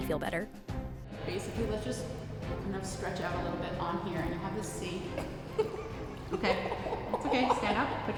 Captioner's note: nervous laughs